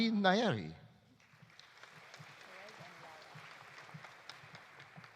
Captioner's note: audience applauding